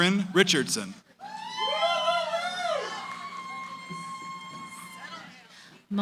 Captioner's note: cheering